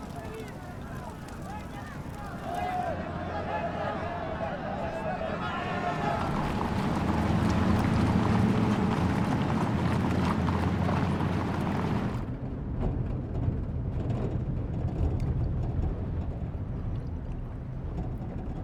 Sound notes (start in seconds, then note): 2.6 roar of chatter